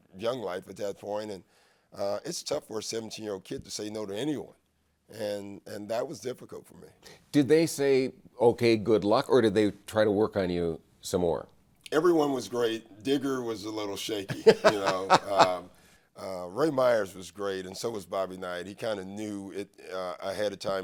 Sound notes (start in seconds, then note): 14.3 laughs